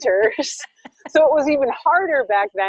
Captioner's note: laughing